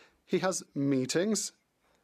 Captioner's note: speaking French